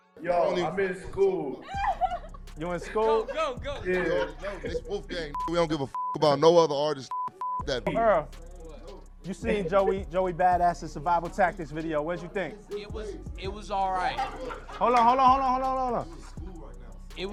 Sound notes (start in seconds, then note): 5.3 beeping